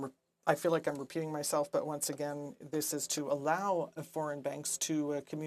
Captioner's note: speaking French